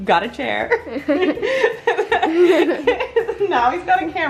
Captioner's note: both laugh